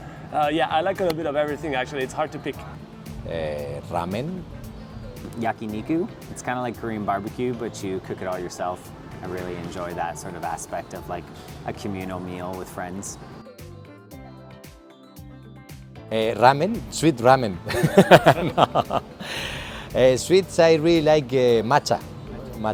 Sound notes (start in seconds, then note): 17.6 laughing